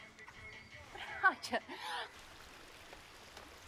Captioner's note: laughs